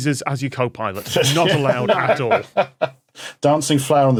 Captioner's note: guests laughing